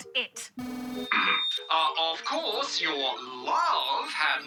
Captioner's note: feedback whines